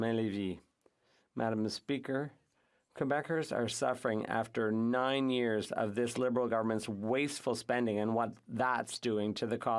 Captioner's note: speaking French